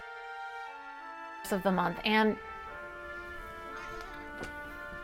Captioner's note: mrow